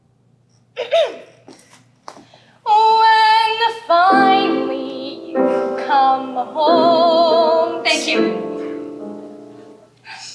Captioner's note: clears throat